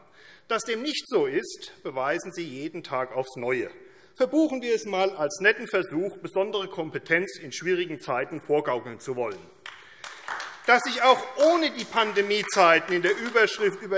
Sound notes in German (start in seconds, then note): 9.6 Beifall AfD